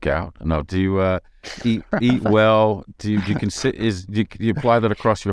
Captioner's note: laughing